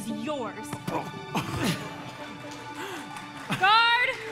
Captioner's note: Hans grunts